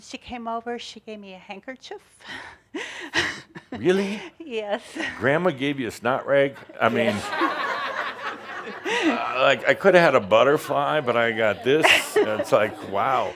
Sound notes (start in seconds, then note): 2.8 she chuckles; 9.6 laughter